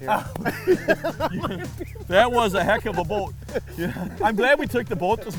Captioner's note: laughing